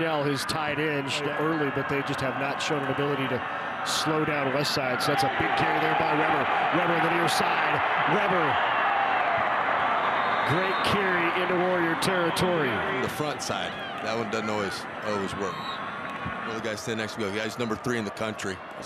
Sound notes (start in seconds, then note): 6.5 fans cheer; 9.9 referee blows whistle